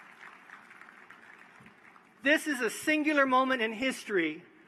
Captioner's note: cheers; applause